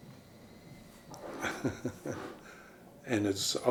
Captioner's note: chuckles